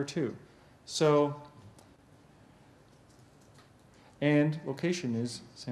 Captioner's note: pause